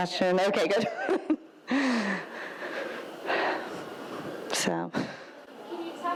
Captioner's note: laughs